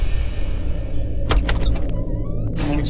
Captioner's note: Door opens